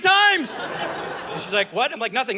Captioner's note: audience laughing